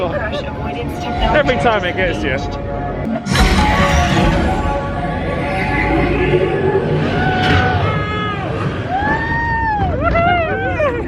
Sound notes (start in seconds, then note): 0.2 indistinct chatters; 3.7 gentle music; 7.0 screaming